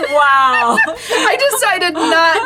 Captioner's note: both laughing